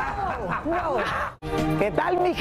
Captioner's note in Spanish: risas